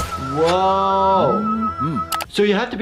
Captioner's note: keyboard clicking